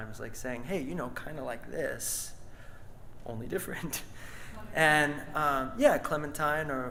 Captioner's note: laughs